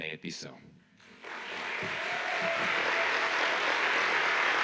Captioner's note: audience applauds